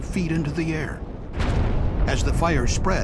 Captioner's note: sound of explosion